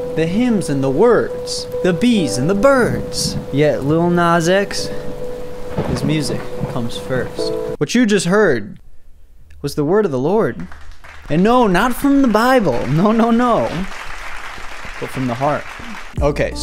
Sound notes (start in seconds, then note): 13.9 clapping